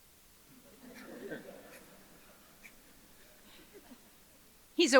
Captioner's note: audience chuckles